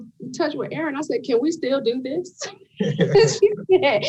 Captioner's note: panelists laughing